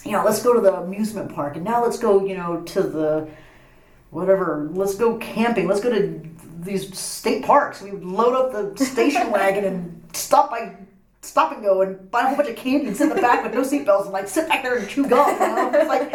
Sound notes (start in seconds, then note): 8.8 laughs; 14.8 laughs